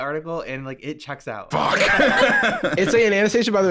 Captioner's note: laughs